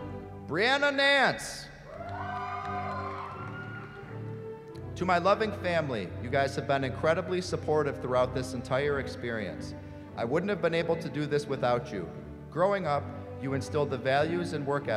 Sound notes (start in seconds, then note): 1.8 cheering